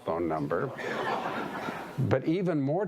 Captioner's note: audience laughing